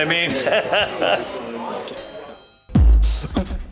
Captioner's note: laughs; upbeat music